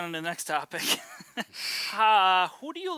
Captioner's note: laughs